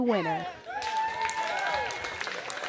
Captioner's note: cheering